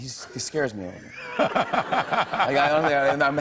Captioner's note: laughter